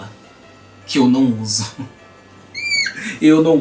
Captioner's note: laughing desperately